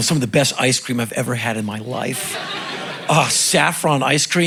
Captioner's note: crowd laughing